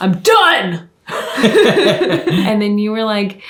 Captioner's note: both laughing